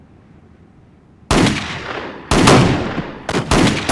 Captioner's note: gunfire